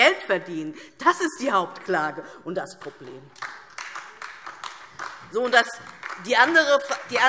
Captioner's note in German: Beifall DIE LINKE und vereinzelt SPD